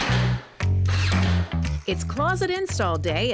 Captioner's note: hammering; baseline funk